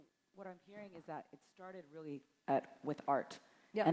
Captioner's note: none